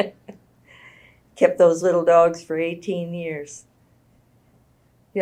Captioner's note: laughs